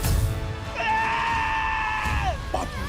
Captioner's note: screams